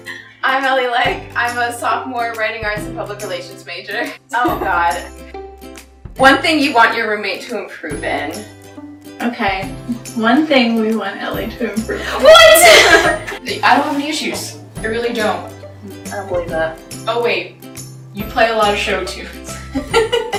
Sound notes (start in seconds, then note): 12.0 all laughing; 19.7 laughing